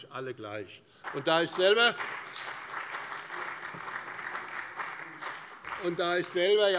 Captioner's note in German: Beifall bei dem BÜNDNIS 90/DIE GRÜNEN, der CDU und der FDP